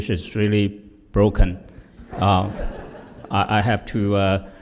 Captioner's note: laughter